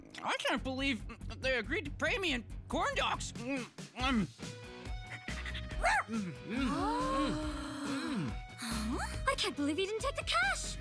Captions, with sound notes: I can't believe they agreed to pay me in corn dogs. [barking] [gasping] I can't believe he didn't take the cash.